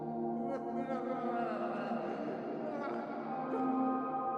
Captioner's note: Logan sobbing